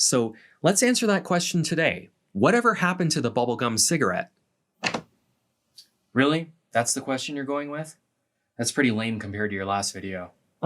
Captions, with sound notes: So, let’s answer that question today, whatever happened to the bubble gum cigarette? [Door opens] Really, that’s the question you’re going with? That’s pretty lame compared to your last video.